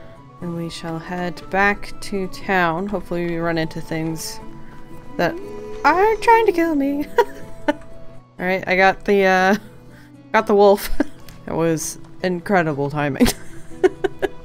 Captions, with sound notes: And we shall head back to town, hopefully we run into things that aren't *surprised sing songy* trying to kill me *laughs* All right I got the uh got the wolf *laughing* That was incredible timing *laughs*